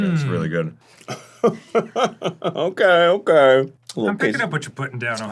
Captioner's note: hauty chuckle